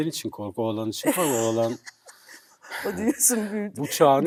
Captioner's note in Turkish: kahkaha; homurdanır